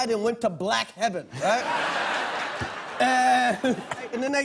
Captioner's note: audience laughing